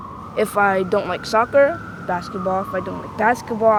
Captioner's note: sirens in background